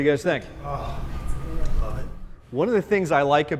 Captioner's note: deep Voice